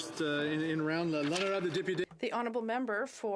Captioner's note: speaking French